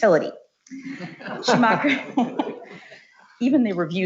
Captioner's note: laughs